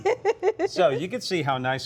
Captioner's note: laughs